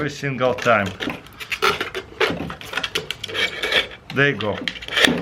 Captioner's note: weaving plastic